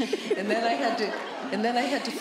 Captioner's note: laughter